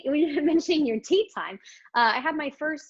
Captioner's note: chuckles